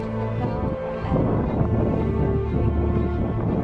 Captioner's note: wind Noise